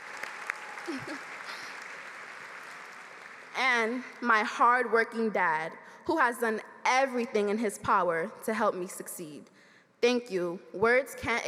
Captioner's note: applause